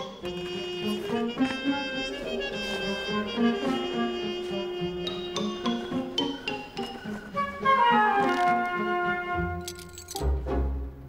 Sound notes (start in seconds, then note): 4.4 lantern rattling